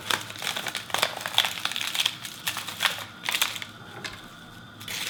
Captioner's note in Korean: 김 바삭거리는 소리